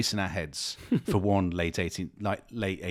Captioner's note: chuckles